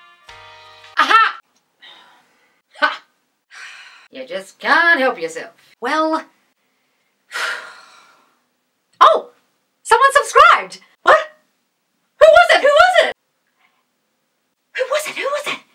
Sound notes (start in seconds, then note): 3.5 sighs; 7.3 sighs